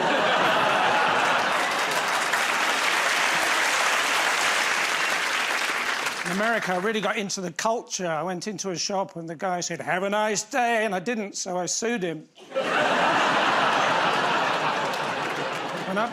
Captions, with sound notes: [ Laughter ] [ Applause ] In America, I really got into the culture. I went into a shop, and the guy said, "Have a nice day," and I didn't, so I sued him. [ Laughter ]